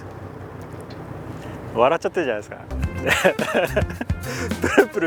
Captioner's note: laughs